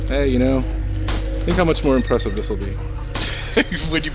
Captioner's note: laughs